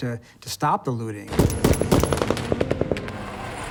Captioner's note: gunshots